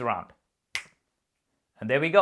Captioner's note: snapping fingers